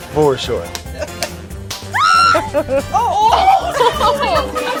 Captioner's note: hands slapping; woman laughing